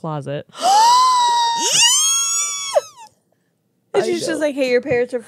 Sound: gasps

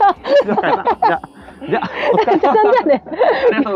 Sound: laughs

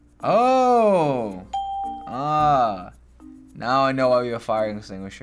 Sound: ding

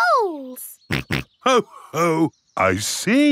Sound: snorts

